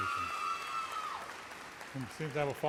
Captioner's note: audience erupts in cheers